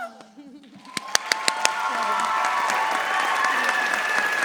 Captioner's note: audience cheering